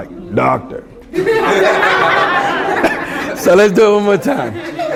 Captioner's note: laughter